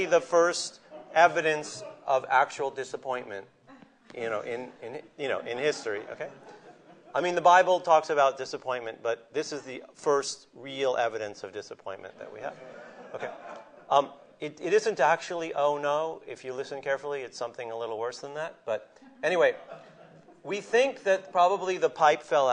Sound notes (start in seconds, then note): 5.6 laughter; 12.2 laughter